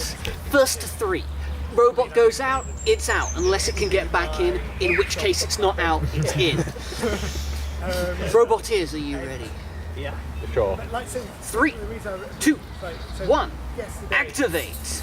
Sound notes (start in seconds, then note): 5.9 laughter; 6.8 inhales